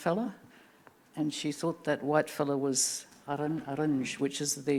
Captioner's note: speaking Anmatyerr